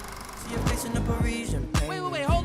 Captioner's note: film projector whirring